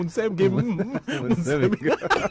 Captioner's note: laughter